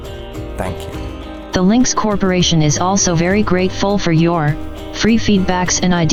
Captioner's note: robotic voice